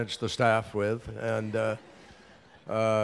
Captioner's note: laughter